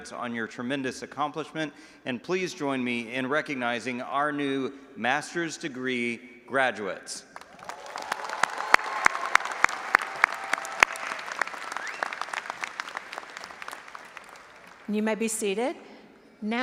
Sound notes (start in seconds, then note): 7.3 audience applauding and cheering